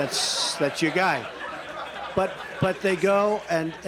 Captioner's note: laughter